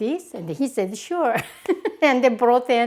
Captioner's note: laughs